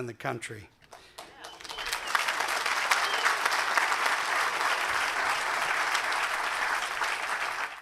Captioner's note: applause